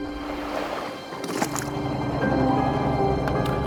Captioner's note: water splashing